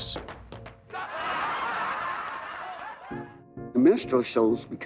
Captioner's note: audience laughs